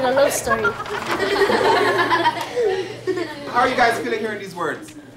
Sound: laughing

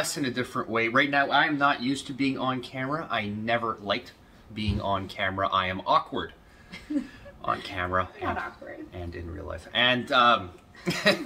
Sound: laughter

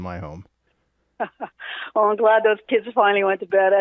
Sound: laughing

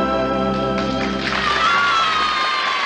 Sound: audience applause and cheering

